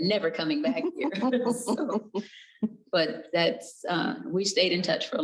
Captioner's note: chuckles